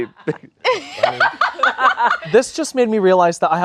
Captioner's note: laughing